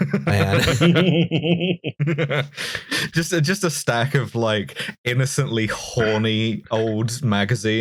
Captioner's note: laughter